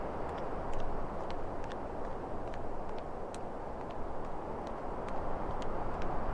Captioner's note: footsteps tapping continues